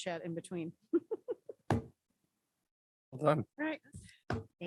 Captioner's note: laughs